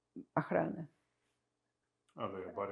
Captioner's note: russian